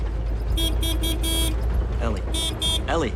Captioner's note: honks horn